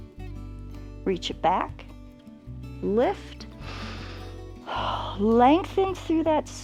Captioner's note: inhales and exhales